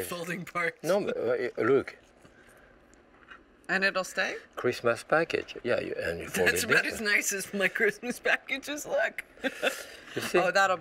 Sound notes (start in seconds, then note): 9.4 laughs